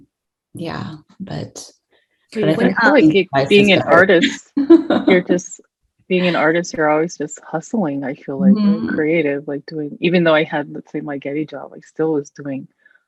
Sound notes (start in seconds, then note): 3.2 laughs